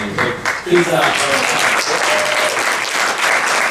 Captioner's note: clapping